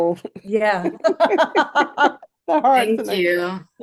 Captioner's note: laughs